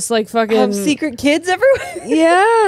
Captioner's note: laughs